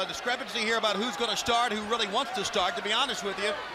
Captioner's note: crowd cheering